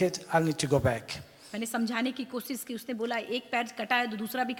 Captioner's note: speaks foreign language